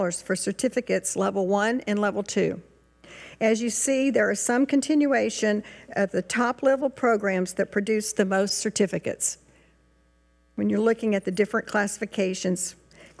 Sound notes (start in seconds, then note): none